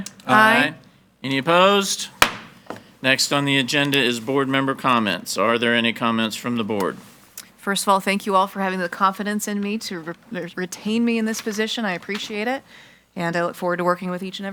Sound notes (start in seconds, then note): 2.2 gavel banging